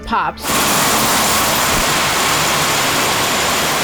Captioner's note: guns shooting